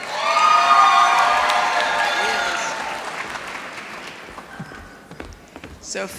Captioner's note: applause